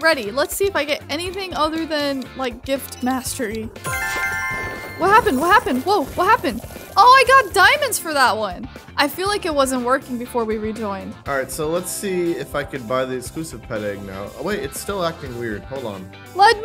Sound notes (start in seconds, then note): 3.8 bright chiming